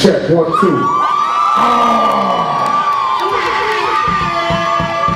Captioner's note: audience cheering